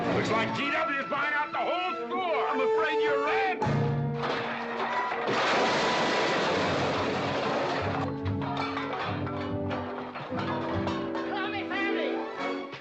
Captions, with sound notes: - Looks like GW is buying out the whole store! - I'm afraid you're right! (loud crash) - Call me family!